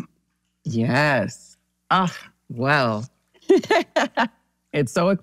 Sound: laughs

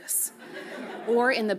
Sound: audience chuckles

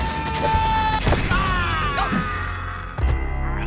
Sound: yelling; raiden screams; splat

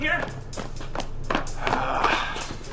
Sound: sighing

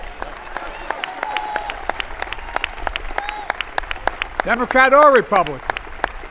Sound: applause

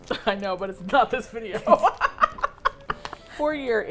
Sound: laughs; both laugh

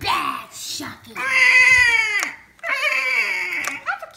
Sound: shark whines

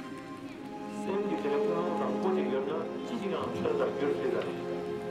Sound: Ladakhi spoken audio

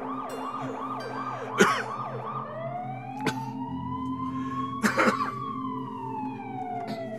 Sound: ambulance siren grows

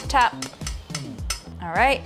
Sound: tapping

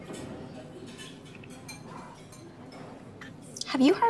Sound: quiet background chattering

